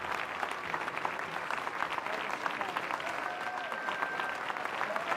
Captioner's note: applause